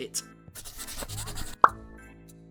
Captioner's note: pencil scratching